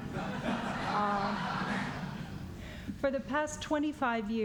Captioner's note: laughter